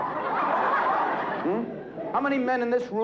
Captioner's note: laughter